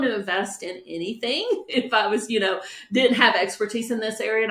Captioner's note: laughs